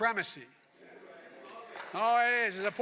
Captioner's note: cheers and applause